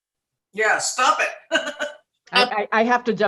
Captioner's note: laughs